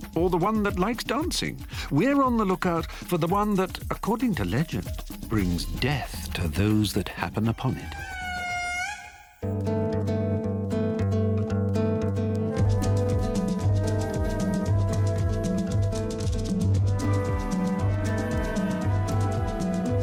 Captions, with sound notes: or the one that likes dancing. We are on the lookout for the one that, according to legend, brings death to those that happen upon it. (lemur screams) (uplifting music)